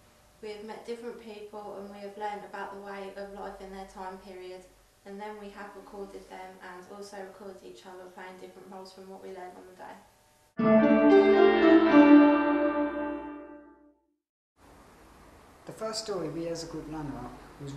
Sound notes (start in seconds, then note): none